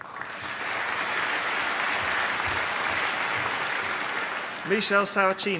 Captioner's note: applause